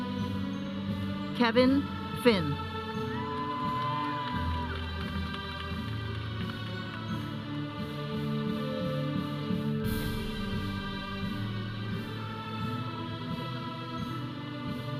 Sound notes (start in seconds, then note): 3.0 audience cheering; 6.1 processional music